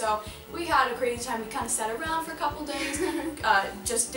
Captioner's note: laughs